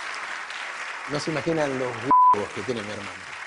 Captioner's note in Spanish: Aplausos